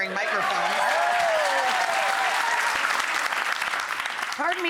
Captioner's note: audience applause